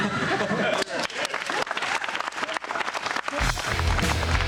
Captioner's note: laughter; applause